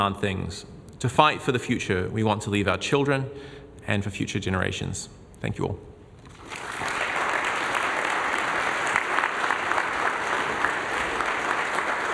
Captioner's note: applause